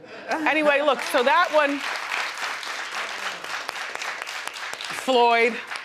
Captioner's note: audience applauding